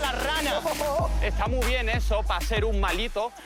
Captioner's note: laughs and shouts